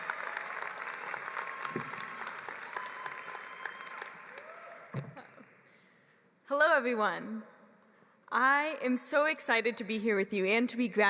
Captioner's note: applause